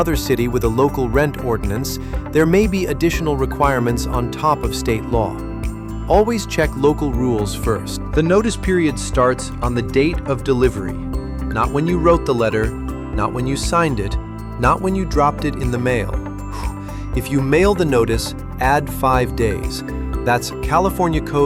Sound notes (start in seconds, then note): 5.2 thoughtful; 16.5 exhales sharply